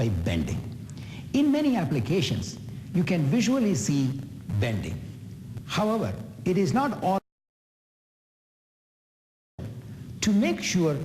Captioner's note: audio skip